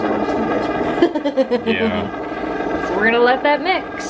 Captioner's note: laughter